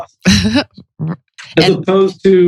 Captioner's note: laughs